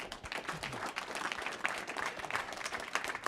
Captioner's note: applause